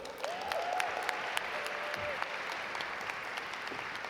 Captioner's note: audience applaud